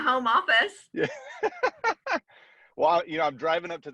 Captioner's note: laughs